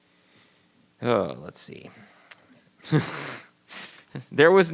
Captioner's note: laughs